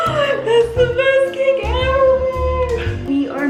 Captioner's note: gasps